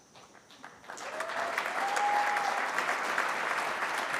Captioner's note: cheering